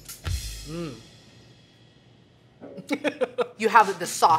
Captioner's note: laughing